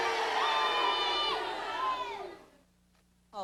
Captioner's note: jeering stops